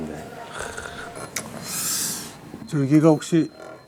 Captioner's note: a cheerful chime rings